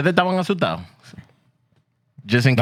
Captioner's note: speaking In Foreign Language